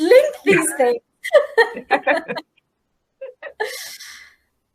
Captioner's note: laughing